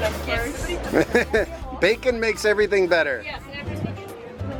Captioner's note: laughs; jazzy music